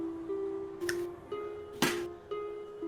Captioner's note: quiet successful noises